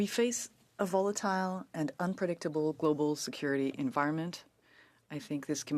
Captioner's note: speaking French